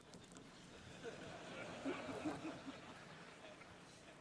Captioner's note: laughter